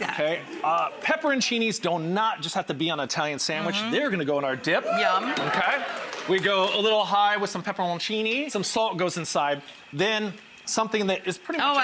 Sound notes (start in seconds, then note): 4.4 crowd cheers